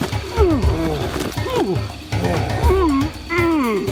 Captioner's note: all grunting